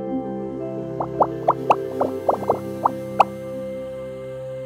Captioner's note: bubbles popping